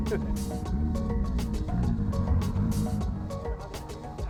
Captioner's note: laughs; car purring